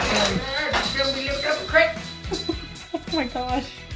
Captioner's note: loud clattering and shouting in background